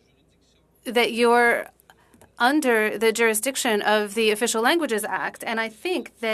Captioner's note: speaking French